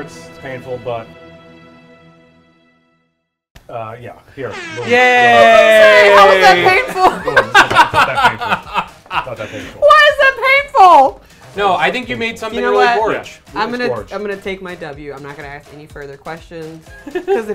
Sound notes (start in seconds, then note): 6.5 laughs